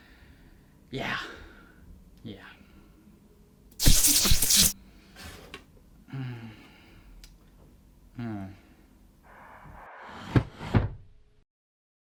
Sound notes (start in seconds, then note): 3.8 lightning fizzle; 6.3 contented sigh